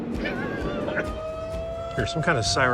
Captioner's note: tornado siren screeching